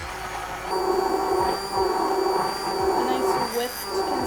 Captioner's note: blender whirs